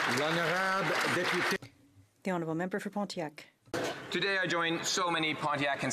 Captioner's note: some Applause